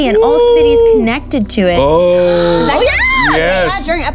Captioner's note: cheering